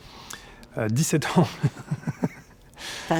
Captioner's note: laughs